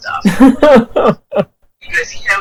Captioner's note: laughs